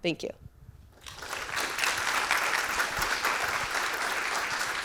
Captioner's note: audience clapping